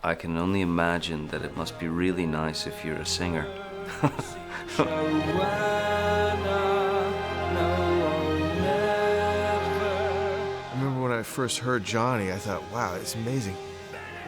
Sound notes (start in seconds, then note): 3.8 chuckles